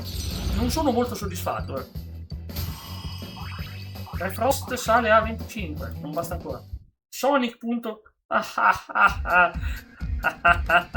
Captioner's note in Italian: risate